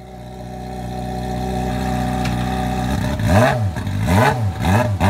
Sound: motorcycle engine revving

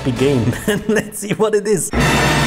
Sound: chuckles

